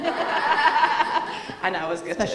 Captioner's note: audience laughing